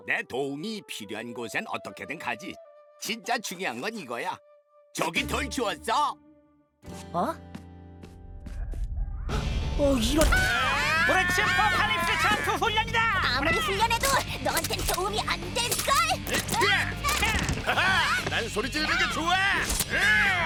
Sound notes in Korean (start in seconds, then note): 10.2 멀리서 기합 소리; 17.6 기합